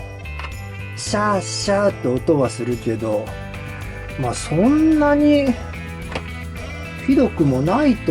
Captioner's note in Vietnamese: cười